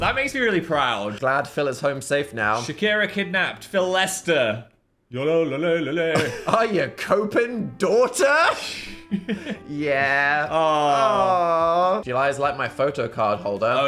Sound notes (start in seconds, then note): 4.6 sings; 8.7 laughs